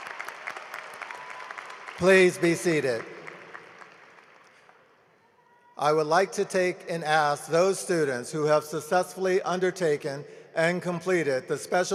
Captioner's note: applause